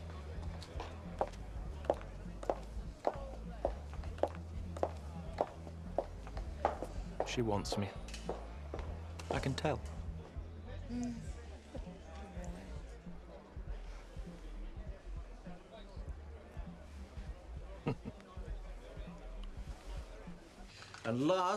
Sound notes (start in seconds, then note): 0.1 attendees chattering; 0.1 heels clacking; 13.7 attendees chattering; 17.8 James chuckles